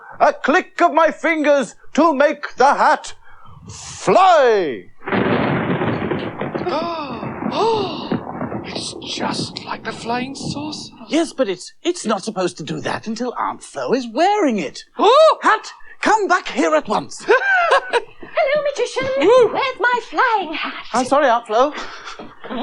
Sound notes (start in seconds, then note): 4.8 sound Of Thunder; 17.1 laughs